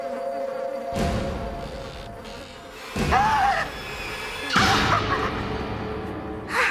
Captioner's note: Cheryl screams and laughs; rocking chair creaking